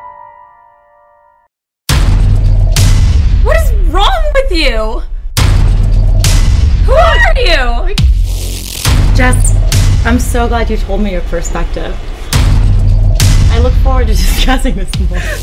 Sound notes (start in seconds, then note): 0.1 music stops; 1.8 loud booming